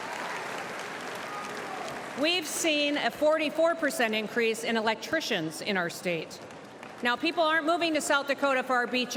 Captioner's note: cheers and applause